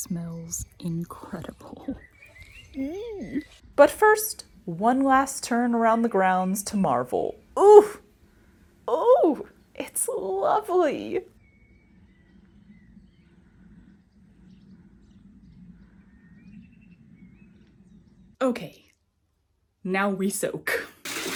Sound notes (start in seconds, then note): 11.3 quiet nature sounds; 21.0 water pouring